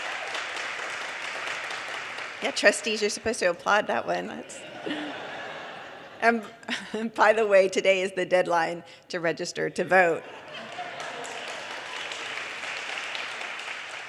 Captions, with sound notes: (audience cheers and applause) Yeah Trustees, you're supposed to applaud that one. That's ... (audience laughter) And by the way, today is the deadline to register to vote.